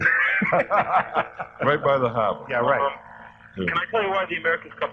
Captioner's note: laughter